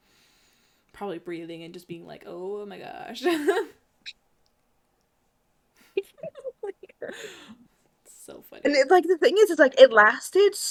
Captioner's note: laughs